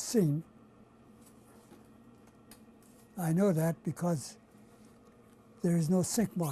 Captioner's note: pauses for 3 seconds